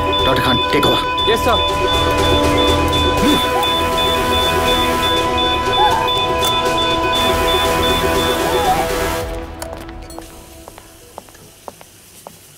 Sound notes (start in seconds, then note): 2.2 Beeping sound